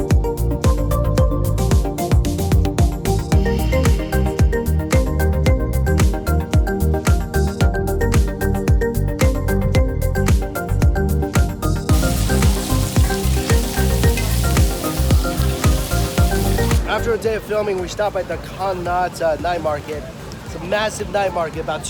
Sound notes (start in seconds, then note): 11.8 sizzling